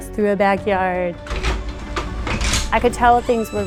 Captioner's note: stretcher clicking